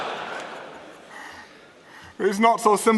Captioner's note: laughter